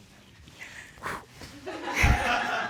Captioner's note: blows